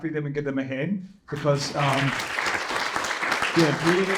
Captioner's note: applause